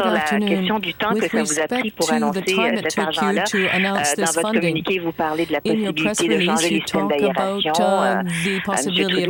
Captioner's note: speaking French